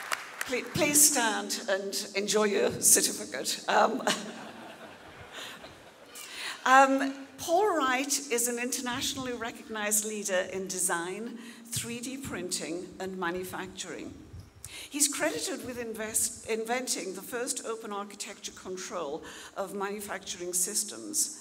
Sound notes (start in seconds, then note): 4.0 audience laughing